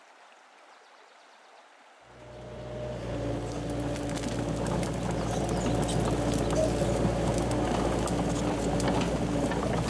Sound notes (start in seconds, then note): 2.9 machine noises